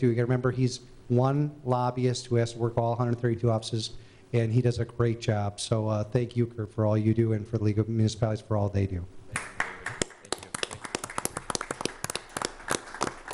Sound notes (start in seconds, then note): 9.3 applause